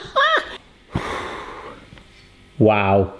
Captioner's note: laughs; blowing